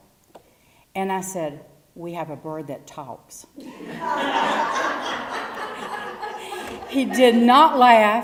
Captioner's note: laugh